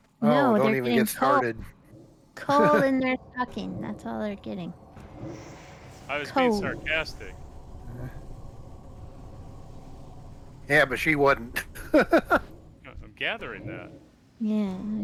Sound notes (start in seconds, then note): 11.6 laughing